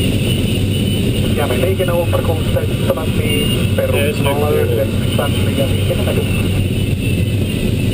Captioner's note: radio